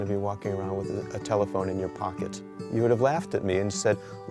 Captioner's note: none